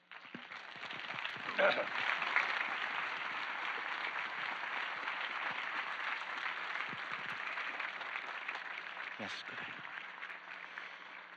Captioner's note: clapping